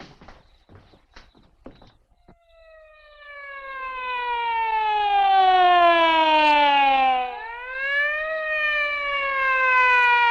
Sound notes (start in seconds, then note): 1.7 siren blaring